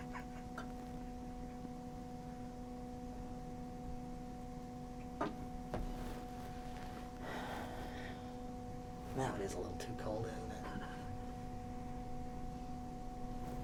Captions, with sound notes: (man chuckling) (sighs) Now it is a little too cold, isn't it?